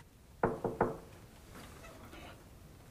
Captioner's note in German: Türklopfen